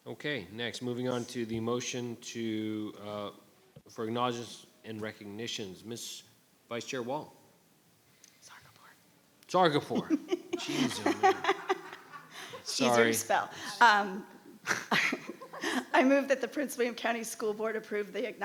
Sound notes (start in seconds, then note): 9.9 giggles